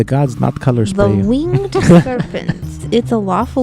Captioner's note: laughs